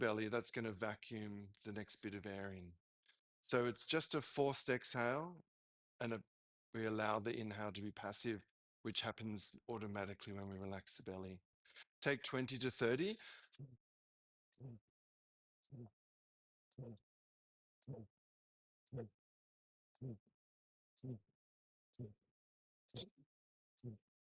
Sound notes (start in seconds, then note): 16.4 breaths